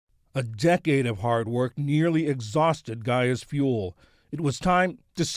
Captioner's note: voice-over